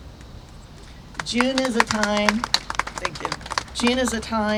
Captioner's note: applause